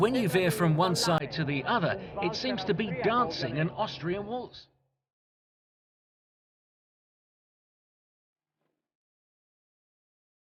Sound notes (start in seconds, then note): 7.4 silence